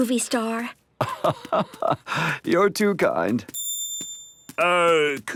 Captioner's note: laugh